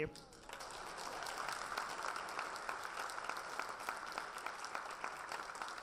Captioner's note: audience applause